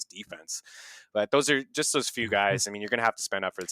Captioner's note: inhales